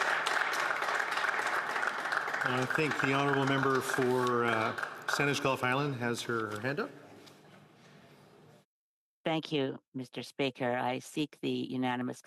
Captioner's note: some Applause